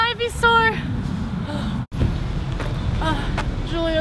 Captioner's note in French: soupir